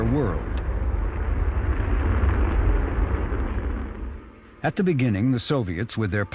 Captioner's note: rocket ship blasting